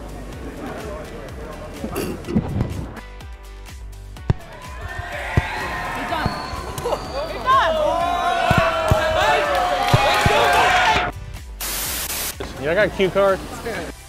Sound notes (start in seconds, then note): 4.3 cheering, fireworks; 11.7 Static